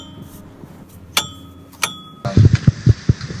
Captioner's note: clanking sound